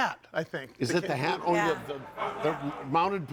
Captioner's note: audience laughing